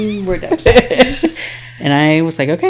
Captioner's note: laughing